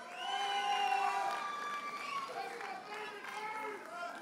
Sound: audience cheers and applauds

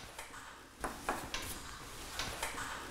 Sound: none

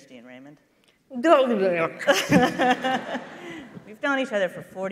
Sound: making mumbling sounds and laughing

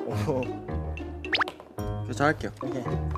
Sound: plop

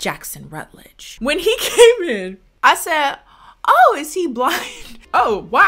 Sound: laughs

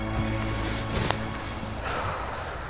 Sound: birds chirping

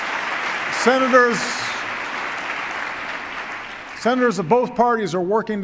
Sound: applause

